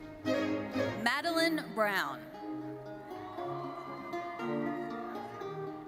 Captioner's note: audience cheering